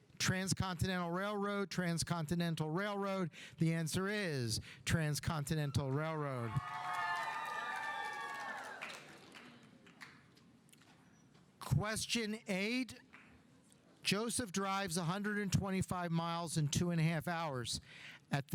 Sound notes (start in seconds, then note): 5.8 audience cheering; 6.5 audience applauding